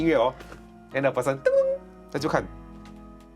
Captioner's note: notification sound